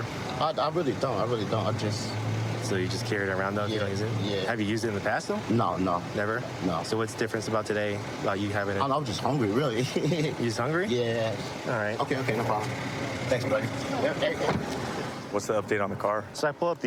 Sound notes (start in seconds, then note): 9.7 laughing